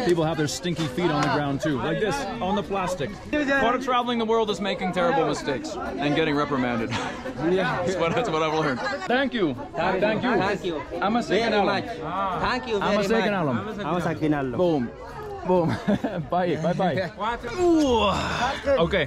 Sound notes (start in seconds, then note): 6.7 laughs; 10.9 thanks in foreign language; 13.1 thanks in foreign language; 15.6 laughs; 17.5 groans